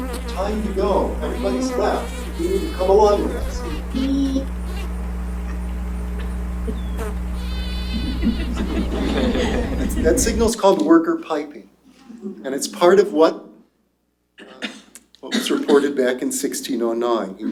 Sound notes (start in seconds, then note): 7.0 high-pitched buzzing; 7.6 laughter